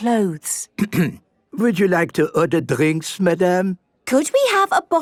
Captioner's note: clears throat